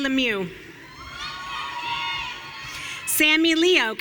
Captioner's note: audience cheering